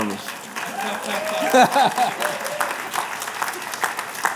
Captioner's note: applause